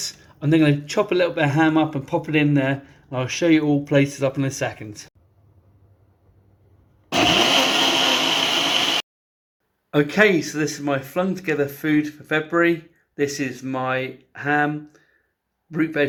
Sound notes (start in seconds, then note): 7.1 blender Noise